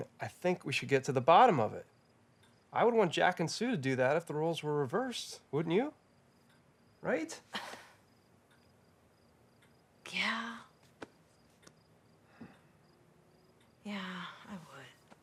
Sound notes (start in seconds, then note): 8.1 Robin huffs; 14.0 sighing